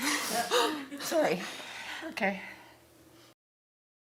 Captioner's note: chuckles